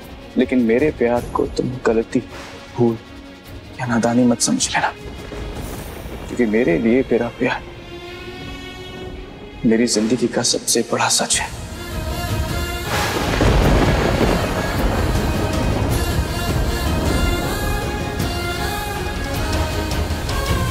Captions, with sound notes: But don't think of my love as a mistake or foolishness. Because for me my love is the biggest truth of my life. - [thunder breaking] - [dramatic music playing]